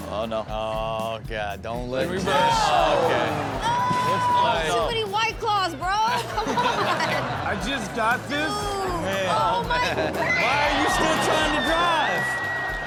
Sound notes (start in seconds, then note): 9.7 screeches